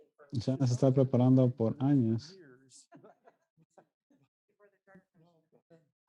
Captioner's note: laughing